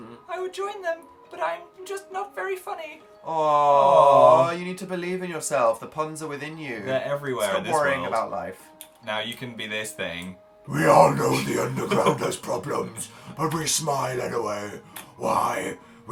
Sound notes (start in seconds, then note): 10.1 low voice of doom; 11.0 laughs